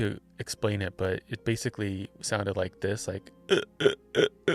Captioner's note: croaking